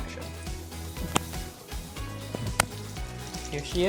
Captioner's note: butter sizzling